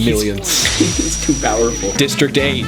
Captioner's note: laser SHHIIIING!